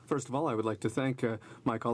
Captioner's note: speaking French